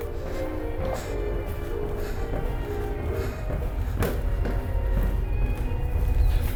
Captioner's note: footsteps descending; deep ominous music